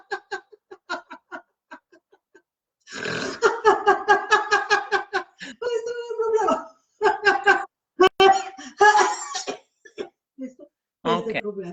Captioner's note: then he starts coughing as he goes over